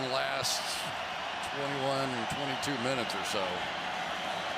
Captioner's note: cheers